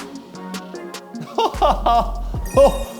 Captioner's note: burst out laughing